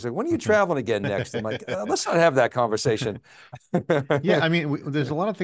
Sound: chuckles

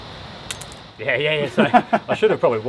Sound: laughing

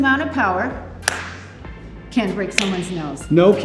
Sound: fist thwacks; fist thwacks

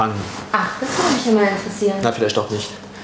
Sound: Catja, ironically

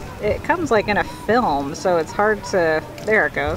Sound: crinkling noises

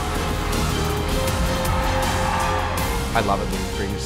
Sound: cheering

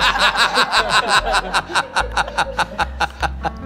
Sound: laughing

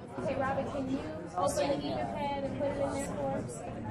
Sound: voiceover

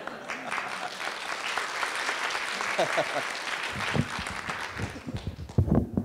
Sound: laughter/applause

